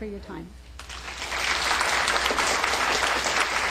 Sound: applause

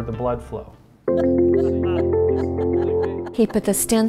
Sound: laughing together

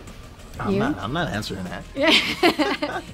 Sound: laughing

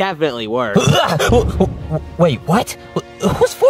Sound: grunting

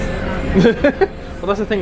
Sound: laughs

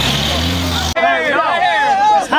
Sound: crowd cheers

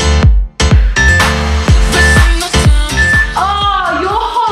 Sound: phone beeping

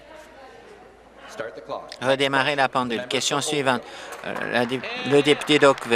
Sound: applause

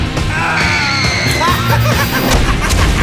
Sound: screaming

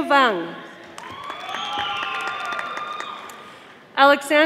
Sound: audience applauding

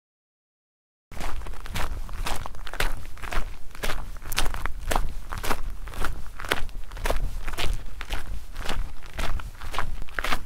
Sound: sound of walking

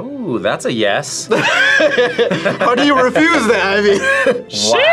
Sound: laughs

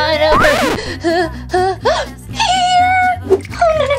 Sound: gasping

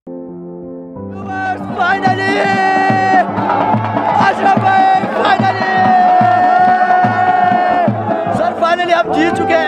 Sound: crowd Celebrating

